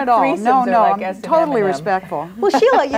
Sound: overlapping chattering

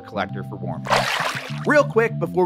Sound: water splashing

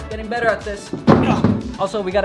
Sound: thunk

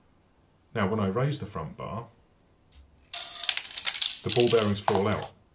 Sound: sound of clattering bearings

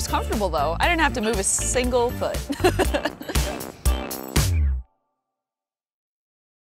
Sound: laughs

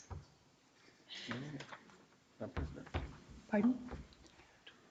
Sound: speaks distantly

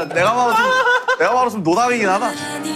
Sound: laughing

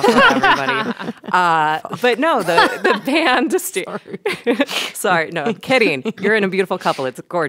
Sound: laughs

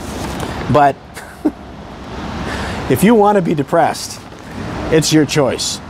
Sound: chuckles

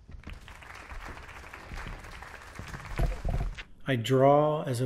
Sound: audience applauds

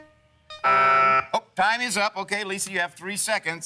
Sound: buzzer

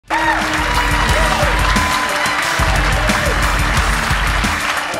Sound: audience applauding

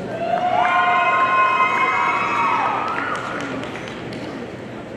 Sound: audience cheering

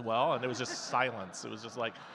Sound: audience laughing

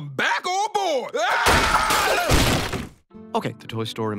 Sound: glass shattering

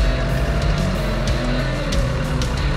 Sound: tractor Motor and Dramatic Music

